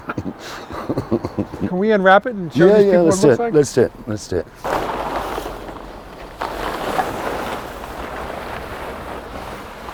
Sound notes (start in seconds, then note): 5.7 tarp shuffling